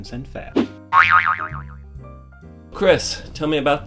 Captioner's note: sproings